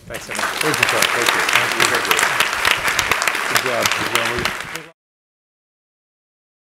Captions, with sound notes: - Thanks so much. (audience appluading)